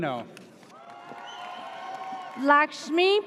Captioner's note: audience cheers